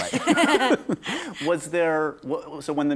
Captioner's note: laughter